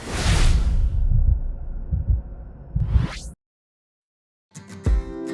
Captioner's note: heartbeats thumping; pleasant guitar music